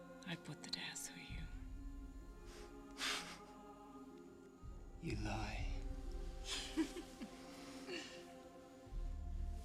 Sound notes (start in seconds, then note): 2.4 balian chuckles; 6.4 giggles